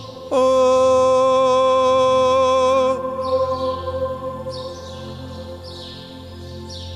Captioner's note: birds chirping